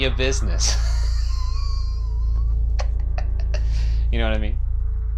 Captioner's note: laughing